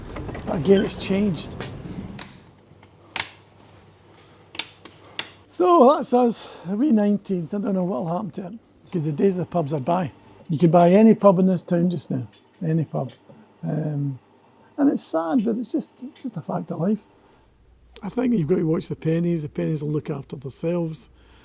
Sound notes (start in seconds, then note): 3.1 lights clicking on